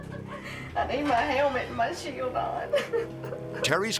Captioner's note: laughs